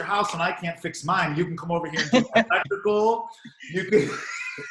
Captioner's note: murmurs